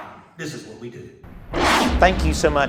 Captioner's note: whoosh